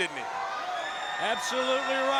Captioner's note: crowd cheering